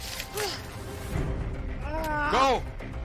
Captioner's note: groaning; intense music